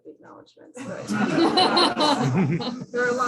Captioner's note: laughter